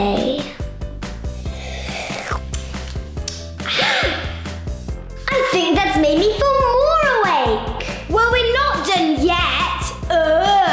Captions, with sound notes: (slurping) (sighing) I think that's made me feel more awake! - Well, we're not done yet, ugh.